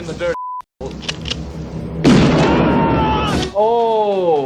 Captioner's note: gun cocks; gun fires; yelling